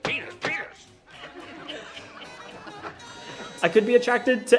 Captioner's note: laughter